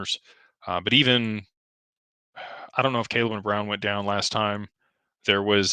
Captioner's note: sighs